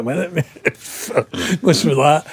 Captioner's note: laughing